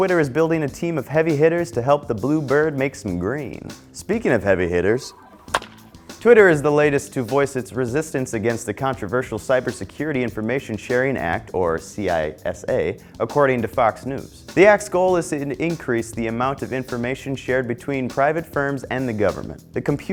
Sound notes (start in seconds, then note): 5.0 baseball bat crack sound effect